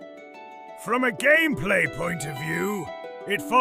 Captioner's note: thoughtful